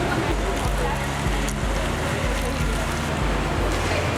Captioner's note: water bubbles